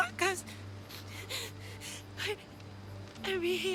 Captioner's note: sobbing